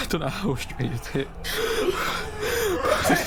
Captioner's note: creature, crying